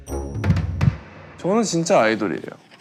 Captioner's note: thump